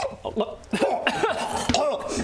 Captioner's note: cough